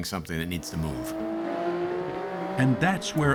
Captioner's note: engine roaring